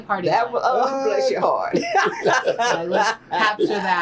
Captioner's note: laughter